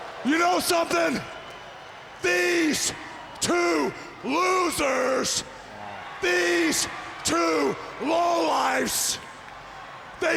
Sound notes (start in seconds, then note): 4.3 crowd cheering; 8.5 crowd cheering